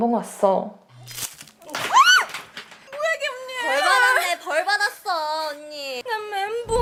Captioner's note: speaks in Korean; all speaking Korean; character screams